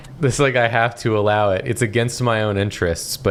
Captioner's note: none